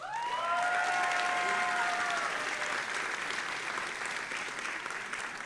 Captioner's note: audience applauding and cheering